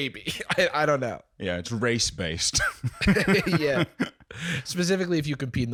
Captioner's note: laughs